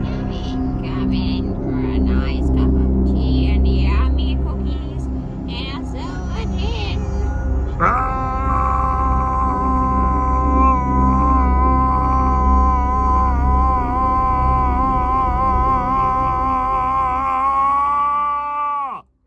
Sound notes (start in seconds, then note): 0.1 croaky; 6.0 sinister spooky music; 7.8 yells of terror